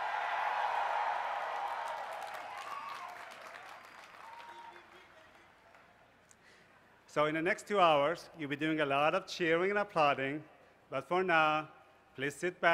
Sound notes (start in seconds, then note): 0.0 cheers and applause